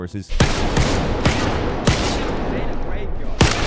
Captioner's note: gun blasting